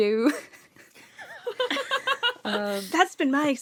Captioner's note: laughter